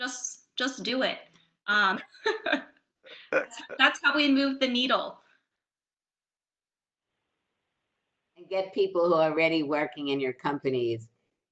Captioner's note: laughs